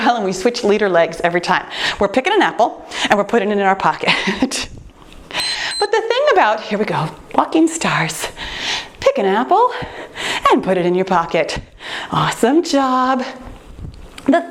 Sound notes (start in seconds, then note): 5.3 timer beeps